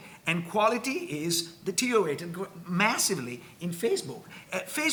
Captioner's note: none